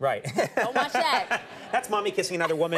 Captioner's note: Conan and audience laughing